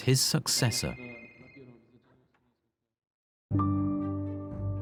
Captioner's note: people chatter indistinctly; phone rings; soft tense music